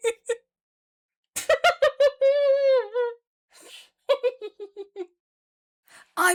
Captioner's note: laughs; laughs more